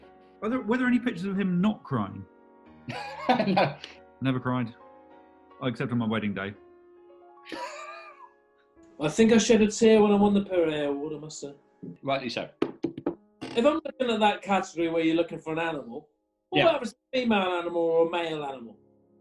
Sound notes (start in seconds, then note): 2.9 laughs; 7.5 sniggering